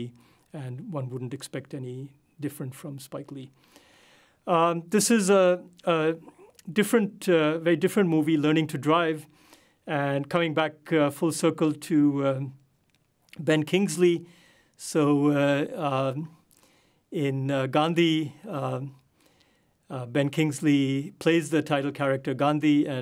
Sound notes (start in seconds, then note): none